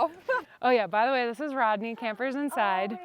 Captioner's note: laughs